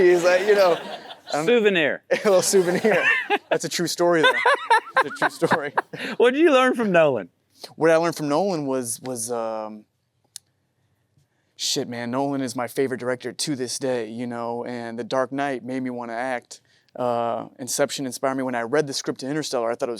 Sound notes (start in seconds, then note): 4.1 Matthew laughs; 4.2 chuckles; 4.2 Matthew chuckles